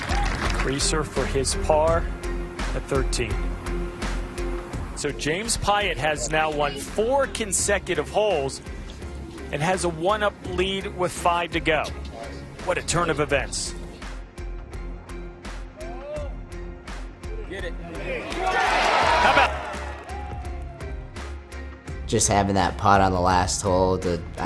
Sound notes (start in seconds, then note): 17.9 crowd cheering